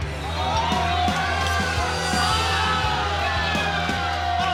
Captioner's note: crowd yells